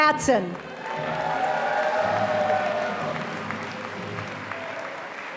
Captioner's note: audience applauding